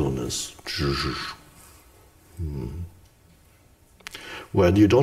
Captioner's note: Eckhart whooshes